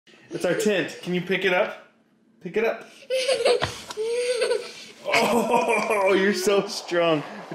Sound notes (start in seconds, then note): 3.0 laughing